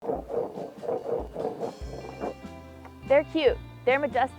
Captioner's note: board scratching